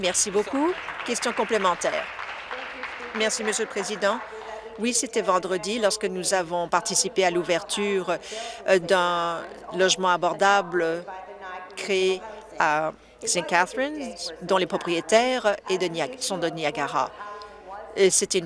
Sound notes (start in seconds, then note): 4.2 applause